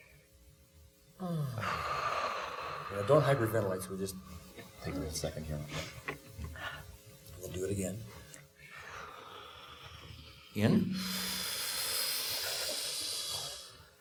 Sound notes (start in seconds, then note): 1.2 exhaling; 8.6 exhaling; 10.9 sharply inhaling